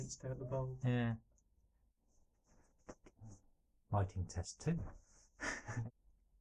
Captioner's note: laughing